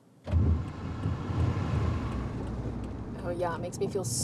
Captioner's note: car blinker clicking